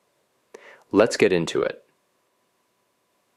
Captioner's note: pause